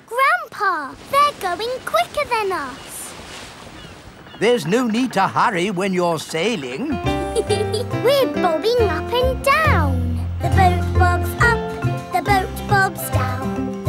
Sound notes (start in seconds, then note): 7.2 giggles